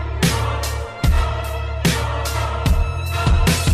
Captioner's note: chanting